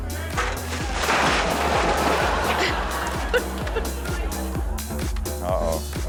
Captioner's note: crashing sound; crowd laughing